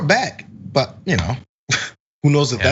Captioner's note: laugh